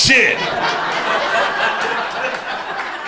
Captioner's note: crowd laughter